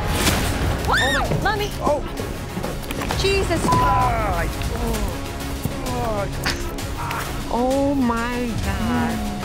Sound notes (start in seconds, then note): 0.8 screams; 4.6 men grunting; 9.2 rhythmic music